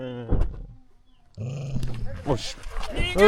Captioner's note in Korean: 으르렁